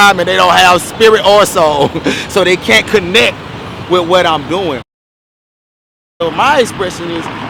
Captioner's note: chuckles